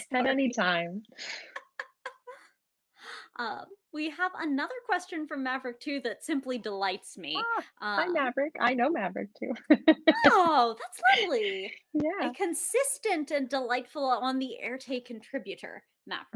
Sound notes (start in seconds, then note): 1.3 laughing